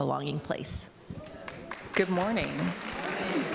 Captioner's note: audience applauding